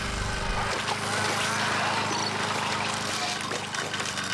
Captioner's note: saw buzzing